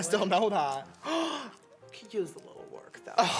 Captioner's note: gasp